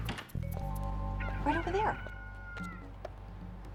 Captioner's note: rooster crowing continues